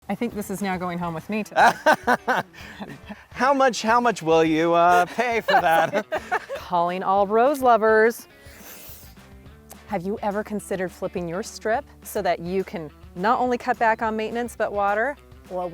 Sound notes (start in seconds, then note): 1.5 both laughing; 8.4 inhale resounds